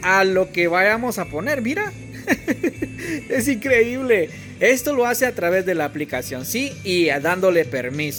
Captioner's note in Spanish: risas